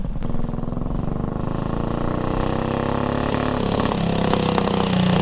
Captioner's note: motorcycle engine revving